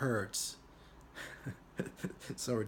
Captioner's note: chuckles